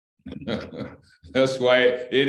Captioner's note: laughter